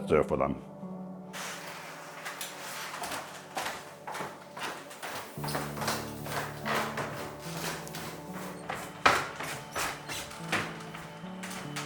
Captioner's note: footsteps